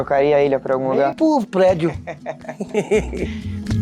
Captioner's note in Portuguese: risos